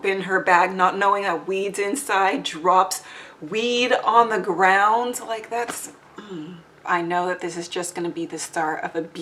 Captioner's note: sighs